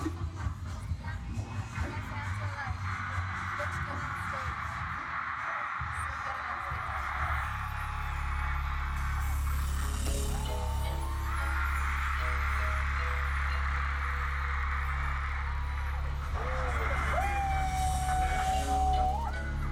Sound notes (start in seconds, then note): 7.3 cheering; 10.4 cheering intensifies